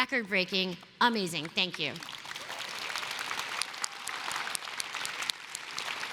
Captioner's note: applause